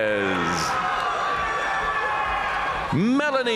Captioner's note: audience cheering and applauding